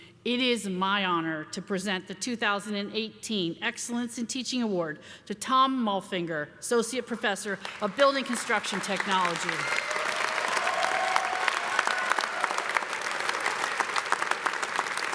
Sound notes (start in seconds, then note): 8.2 cheers and applause